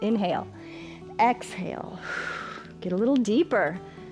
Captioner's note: inhales; exhales